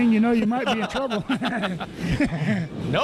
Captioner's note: laughing